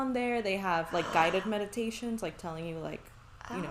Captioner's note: gasps